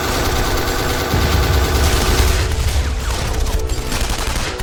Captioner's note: explosion booms